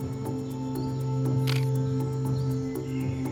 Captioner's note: camera shutter clicks